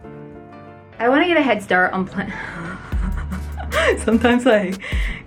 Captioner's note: laughing